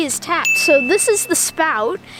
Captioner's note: ding